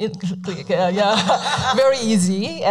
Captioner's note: laughing